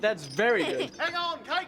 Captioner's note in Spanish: riendo; risas